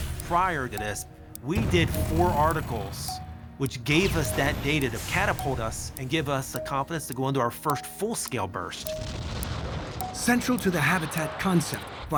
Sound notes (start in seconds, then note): 9.2 blasting off